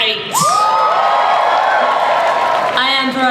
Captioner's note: audience cheers